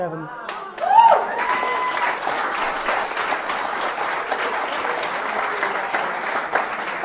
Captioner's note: audience clapping; audience cheering